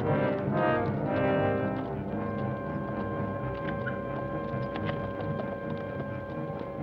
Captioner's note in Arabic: موسيقى أوركسترالية مشوقة; صوت حوافر بعيدة